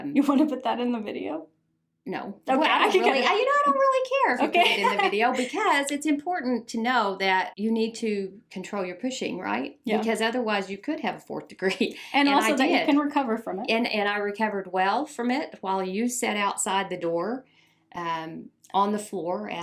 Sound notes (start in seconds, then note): 4.4 laughs